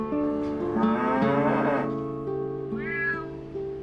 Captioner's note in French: beuglement; miaulement